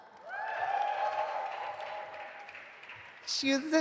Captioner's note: audience applauding